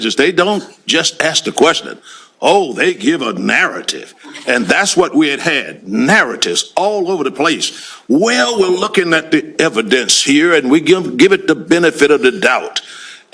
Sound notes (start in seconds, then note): 7.9 imitating defendant